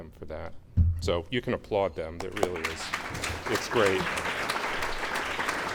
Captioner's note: clapping